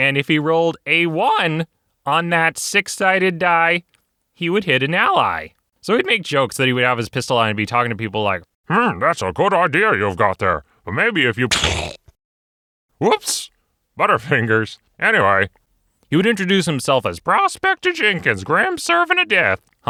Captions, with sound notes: And if he rolled a one! On that six-sided die! He would hit an ally! So he'd make jokes that he would have his pistol out and be talking to people like, Hmm. That's a a good idea you've got there. Well, maybe if you *gunshot* whoops Butterfingers. Anyway... He would introduce himself as "Prospector Jenkins, Grim Servant of Death"